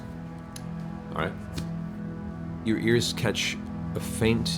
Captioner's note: none